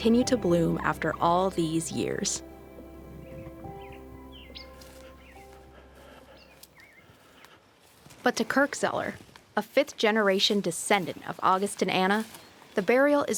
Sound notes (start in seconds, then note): 7.6 birds chirping; 7.6 gentle music